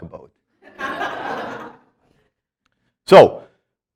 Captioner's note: students laughing